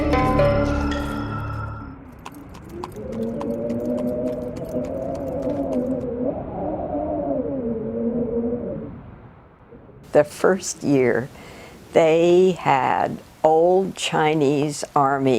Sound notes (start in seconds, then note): 2.0 hooves clopping; 3.2 wind whistling